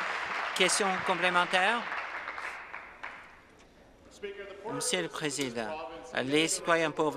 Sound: applause

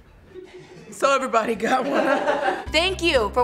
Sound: set erupts with laughter

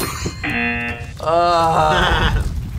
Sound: bell dings; error buzzer; laughs

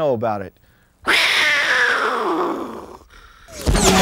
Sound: cougar call

